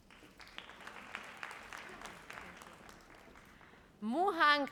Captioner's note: audience applauds